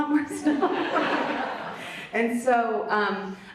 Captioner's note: Vanessa and audience laughs